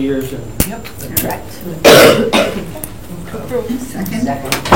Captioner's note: coughing